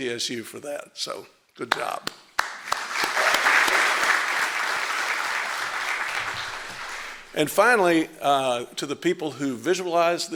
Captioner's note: applause